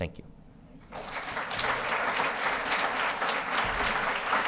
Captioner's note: applause